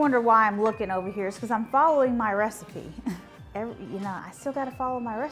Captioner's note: laughs